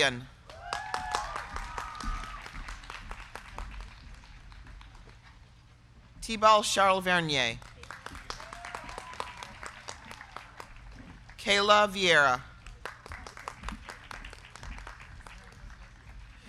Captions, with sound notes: (crowd cheering) (crowd clapping) Thibault Charles Vernier. (crowd cheering) (crowd clapping) Kayla Vieira. (crowd clapping)